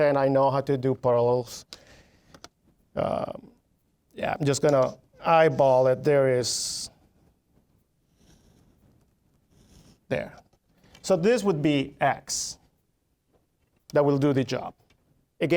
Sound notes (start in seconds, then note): none